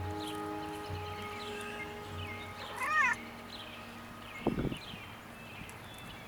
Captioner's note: Muriel rustles in weeds, cat meows